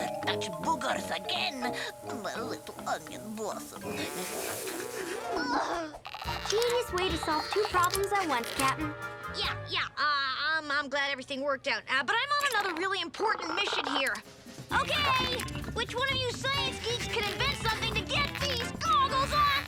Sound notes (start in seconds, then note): 3.8 Otto puffing; 3.8 discordant music